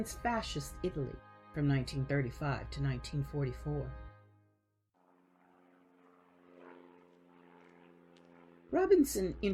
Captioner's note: plane engine sounds